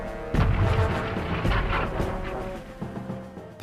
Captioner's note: explosions